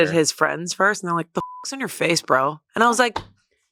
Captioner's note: beep